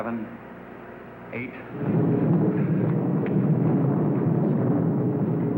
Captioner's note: loud rumbling